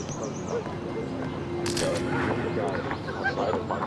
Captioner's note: camera shutter clicks